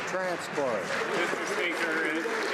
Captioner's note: some Applause